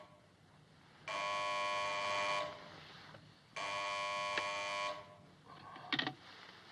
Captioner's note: phone buzzing